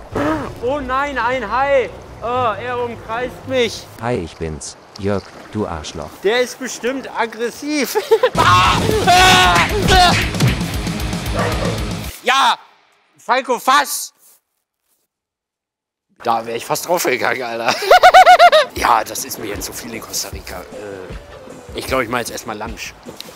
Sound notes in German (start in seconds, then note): 8.3 wildes Geschrei; 17.6 lacht